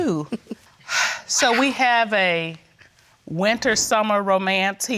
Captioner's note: laughs; exhales